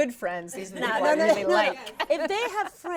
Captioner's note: all laughing